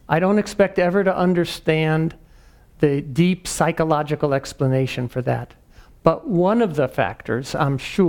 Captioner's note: none